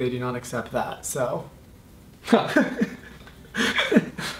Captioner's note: laughs